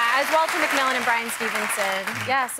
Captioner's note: cheers and applause